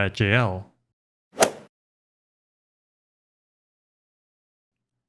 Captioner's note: golf swing sound effect